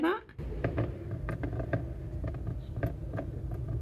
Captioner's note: water tapping on plastic